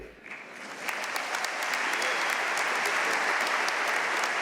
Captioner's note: audience applauding